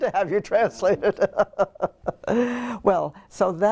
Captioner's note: laugh